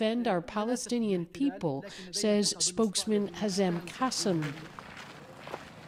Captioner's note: speaking alternate language